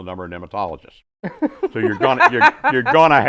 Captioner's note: all laughing